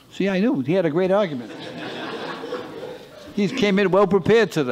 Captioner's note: laughter